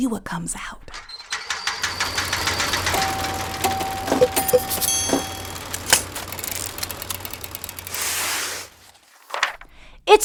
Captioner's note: sounds of lever being pulled